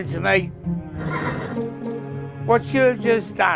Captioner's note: horse neighs